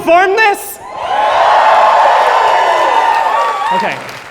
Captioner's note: cheers